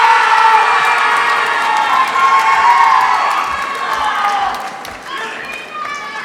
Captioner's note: applause